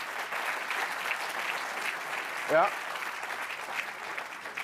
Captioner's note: audience clapping